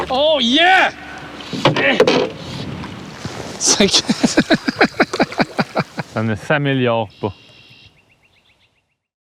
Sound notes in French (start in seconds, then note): 4.0 rires